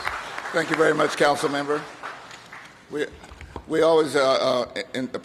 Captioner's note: applause